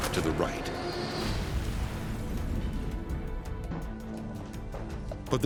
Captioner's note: loud explosion